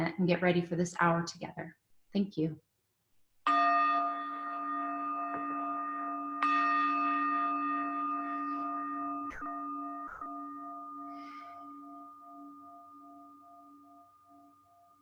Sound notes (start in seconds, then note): 3.5 chimes; 11.7 minute of silence